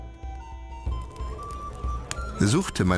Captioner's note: tavern chatter